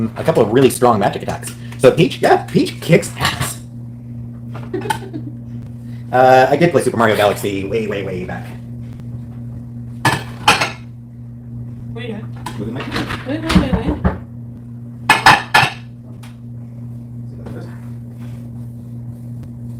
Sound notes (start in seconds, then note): 10.0 dishes clattering; 13.5 knocking on door